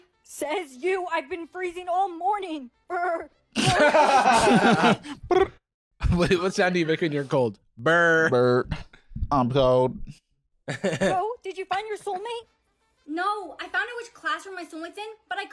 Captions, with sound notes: - (both laughing) - (trilling) "Brrr!" What sound do you make when you're cold? - "Brr." - "Brr. I'm cold." (laughing)